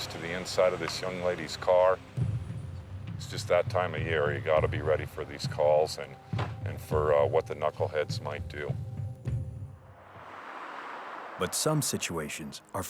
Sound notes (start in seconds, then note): 9.6 traffic whirring